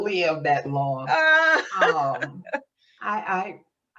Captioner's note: laughs